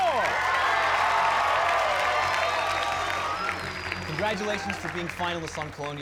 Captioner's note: cheers and applause